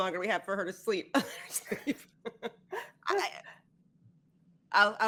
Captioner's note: all laughing